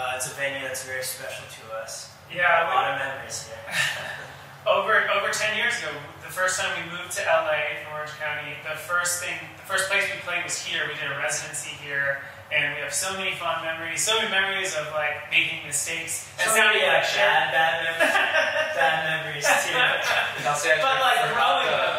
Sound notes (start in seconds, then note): 3.6 laughs; 17.7 laughs